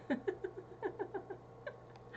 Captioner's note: giggle